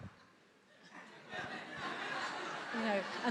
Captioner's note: attendees laughs